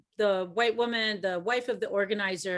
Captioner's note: none